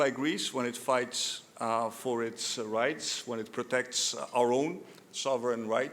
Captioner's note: none